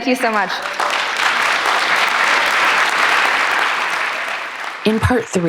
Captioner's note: applause